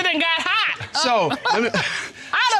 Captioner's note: chuckles; judge chuckling